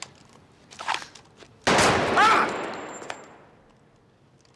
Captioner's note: gunshot; screams